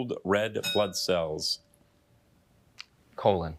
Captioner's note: bell dinging